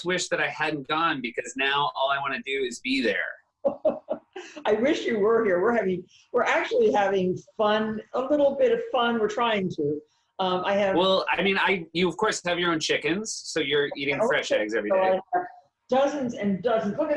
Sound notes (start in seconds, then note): 3.7 laughs